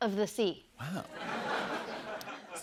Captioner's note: laughter